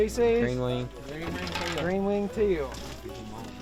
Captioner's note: chatter